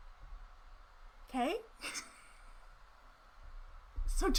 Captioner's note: chuckles